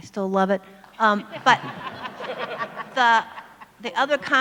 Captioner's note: audience laughs